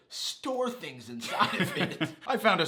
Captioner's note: laughs